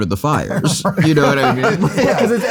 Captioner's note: everyone laughs